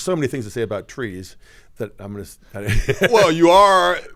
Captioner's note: laughs